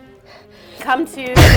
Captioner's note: sneezes